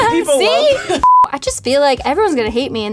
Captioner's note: beep